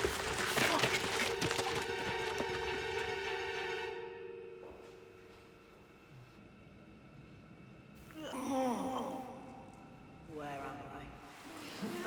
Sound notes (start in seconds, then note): 1.5 dramatic music; 9.5 voiceover